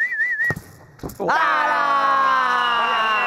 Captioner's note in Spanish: gritan